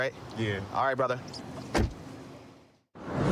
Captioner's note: door shuts